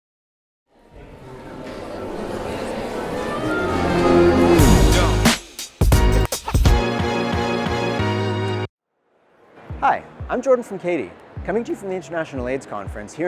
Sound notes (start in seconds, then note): 0.8 people chattering indistinctly; 6.6 upbeat music